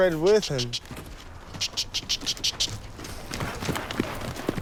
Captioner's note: clicking tongue